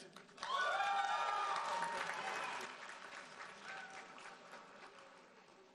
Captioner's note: audience cheering and applauding